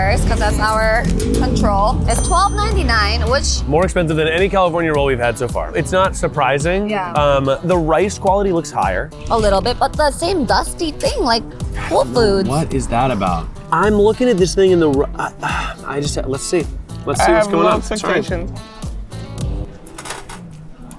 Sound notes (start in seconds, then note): 15.1 sighs